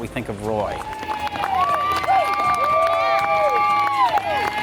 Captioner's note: cheering